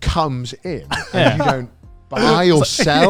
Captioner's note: laughs